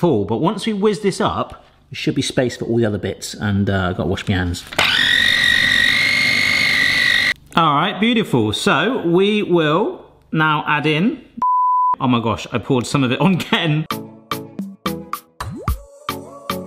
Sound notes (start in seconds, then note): 4.8 blender whirring; 11.4 beep; 13.8 upbeat music